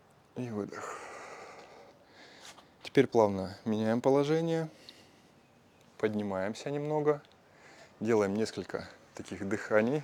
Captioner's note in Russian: вздыхает